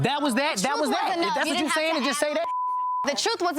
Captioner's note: beep